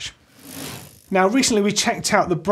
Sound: bicycle wheel whirring

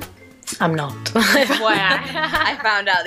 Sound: laughs

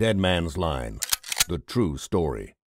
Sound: gun cocks

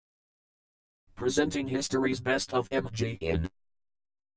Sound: with robotic voice

